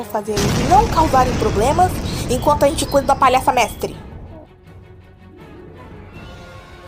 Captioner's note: explosion